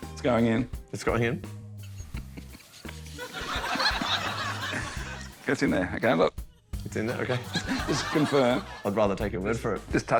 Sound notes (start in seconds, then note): 3.0 laughter; 3.1 laughs